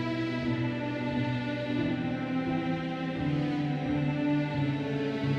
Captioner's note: audience chattering